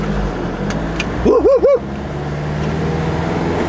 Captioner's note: yells